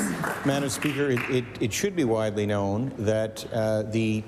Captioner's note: applause